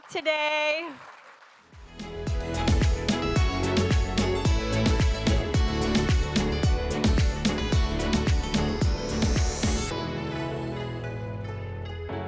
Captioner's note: applause